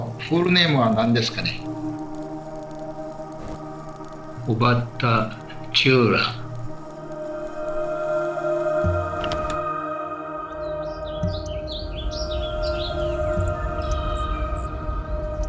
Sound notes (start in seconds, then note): 7.2 gentle music; 10.5 birds chirping